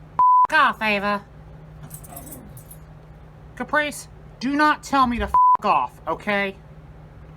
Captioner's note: Ella growls